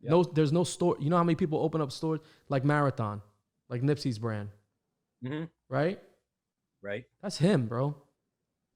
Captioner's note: mmhmm!